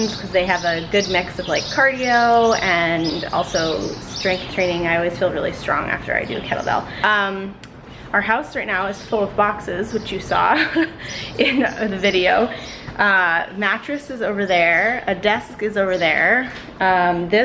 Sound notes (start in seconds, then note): 10.3 laughs